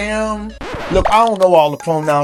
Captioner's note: record scratch